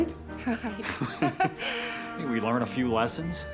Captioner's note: laughing; laughs